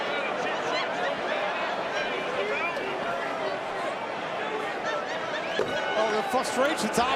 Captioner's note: crowd chatter